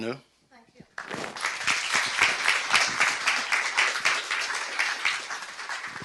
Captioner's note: clapping